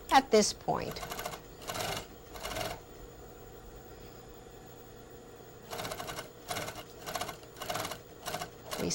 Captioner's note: sewing machine